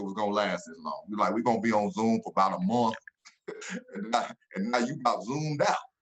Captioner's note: laughs